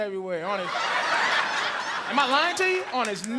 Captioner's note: audience laughing